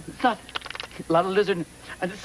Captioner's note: flapping